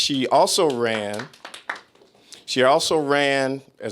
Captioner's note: applause